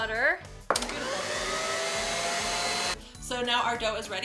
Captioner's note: mixer revs